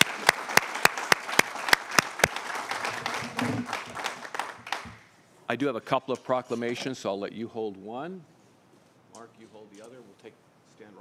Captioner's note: applause